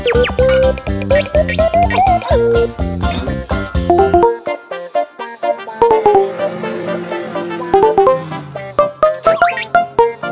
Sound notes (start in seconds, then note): 5.9 car engine revving